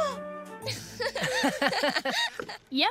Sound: gasping; laughing

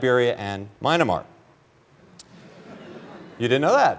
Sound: laughter

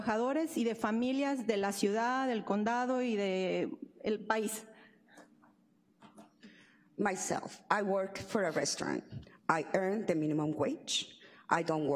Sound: speaking spanish

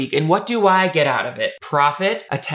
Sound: none

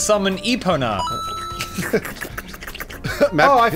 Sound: slurping noises

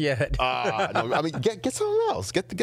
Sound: laughing

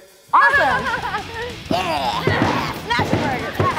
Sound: laughs

